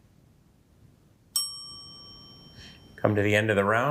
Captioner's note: bell dings